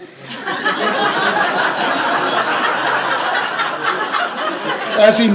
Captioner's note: laughter